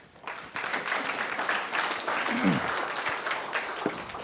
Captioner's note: audience clapping